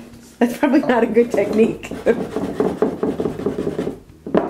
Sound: laughs

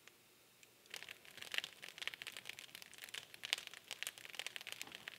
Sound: fire crackling

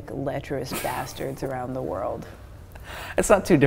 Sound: laughing

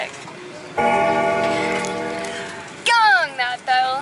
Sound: bell gongs

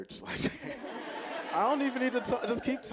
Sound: audience laughing

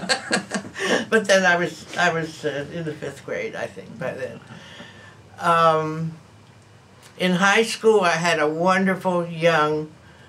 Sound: laughter

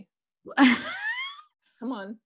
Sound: laughing

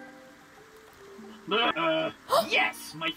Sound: bot laughing

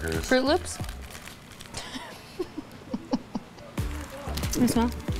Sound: laughs

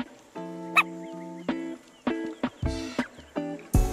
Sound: dog yipping

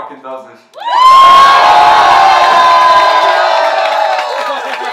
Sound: crowd cheers and applauds

